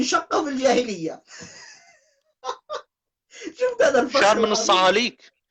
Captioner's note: laugher